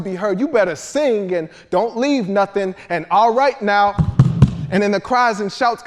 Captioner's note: feet stomping